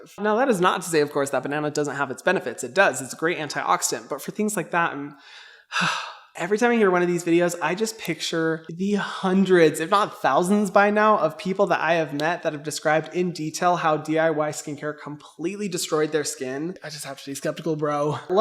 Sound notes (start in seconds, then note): 5.6 sighs